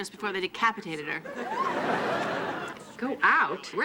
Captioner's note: audience laughing